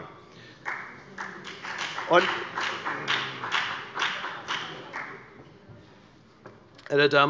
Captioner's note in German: Beifall bei der FDP